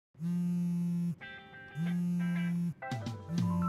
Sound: phone vibrates

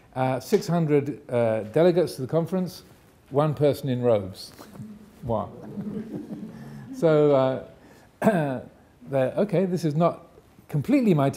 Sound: audience laughing

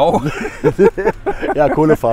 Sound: laughter

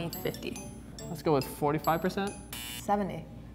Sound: buzzer

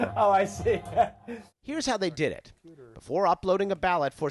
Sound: laughter

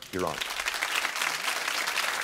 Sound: audience clapping

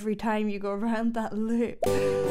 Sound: chuckling

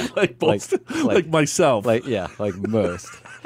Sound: laughs

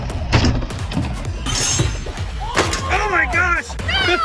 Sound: RC car crashes

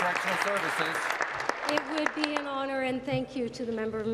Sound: applause

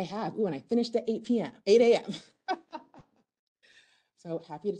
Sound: laughs

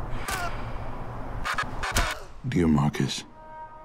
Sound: ominous whirring

